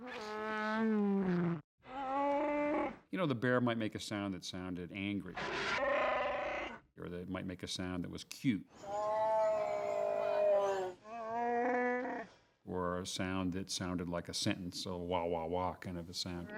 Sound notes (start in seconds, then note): 0.3 roaring; 8.8 growling